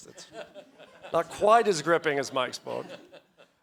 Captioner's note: audience laughs